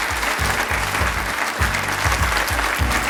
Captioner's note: applause